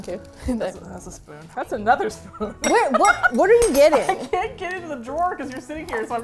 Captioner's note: laughs